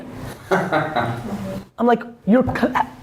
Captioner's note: laughs